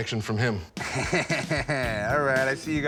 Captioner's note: chuckles